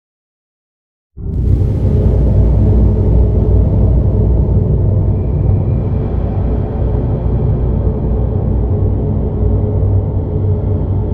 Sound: sound of temple cave

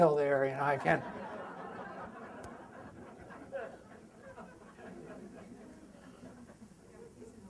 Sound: audience laughter

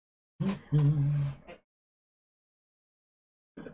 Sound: hums

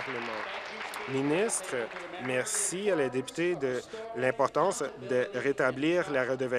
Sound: applause

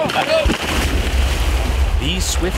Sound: water splashing

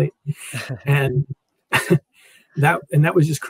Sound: laugh

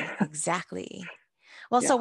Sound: woman laughing

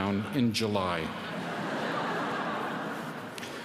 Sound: laughter

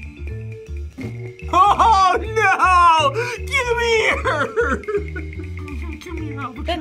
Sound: laughs

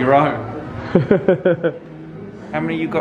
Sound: laughs

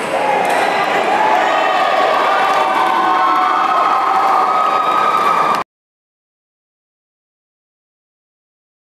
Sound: applause

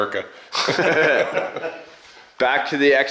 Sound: men laugh

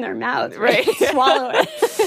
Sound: both laugh

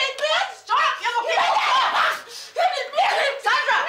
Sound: Sandra shouts angrily

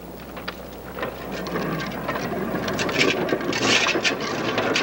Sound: wheels clacking

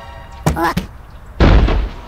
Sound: thud

